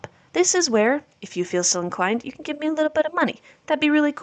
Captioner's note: New York mobster voice